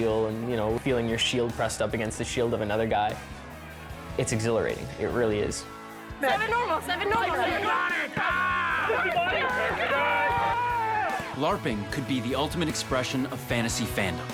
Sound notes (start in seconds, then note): 8.5 yelling